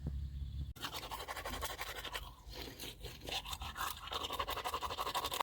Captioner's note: toothbrush scrubbing